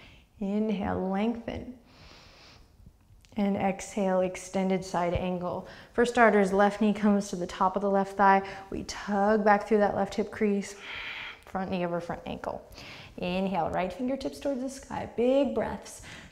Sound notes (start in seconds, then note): 12.7 deep breath